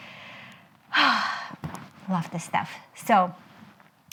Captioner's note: strong exhale